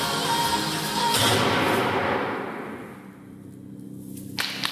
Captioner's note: A gunshot goes off and the music stops; an ominous, deep bass note plays